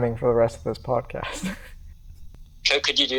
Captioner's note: chuckles